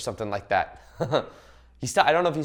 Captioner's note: laughs